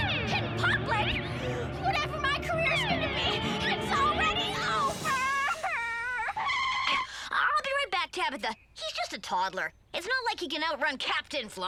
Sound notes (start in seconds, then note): 5.6 tires squeal